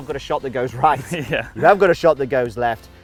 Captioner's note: all laugh